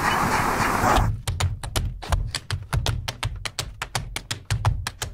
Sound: rhythmic beating

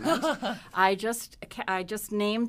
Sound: laughs

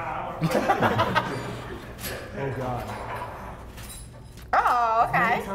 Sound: laugh

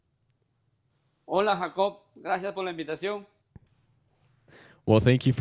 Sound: speaks in Spanish

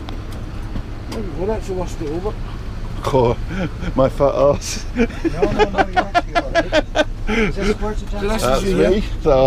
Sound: laugh

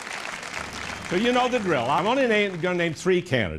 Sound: laughter and applause

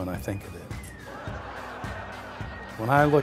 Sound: laughter

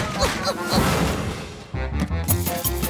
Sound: crash

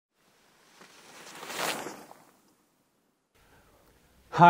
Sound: air whooshing

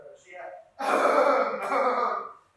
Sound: audibly hacks up lungs

